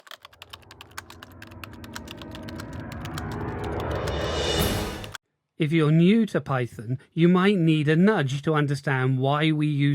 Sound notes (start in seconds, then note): 0.0 typing sounds